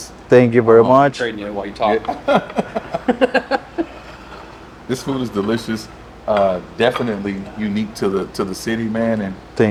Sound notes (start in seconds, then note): 2.0 laughing